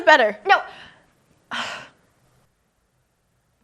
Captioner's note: sighs